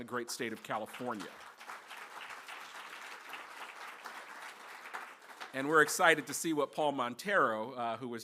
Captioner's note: applause